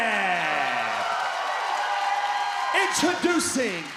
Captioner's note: crowd cheering